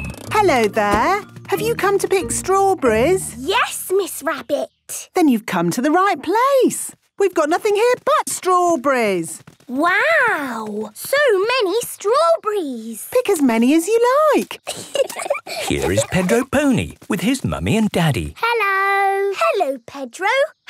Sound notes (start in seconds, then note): 14.6 giggling